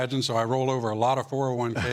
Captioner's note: laughter